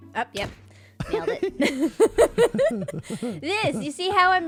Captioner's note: laughs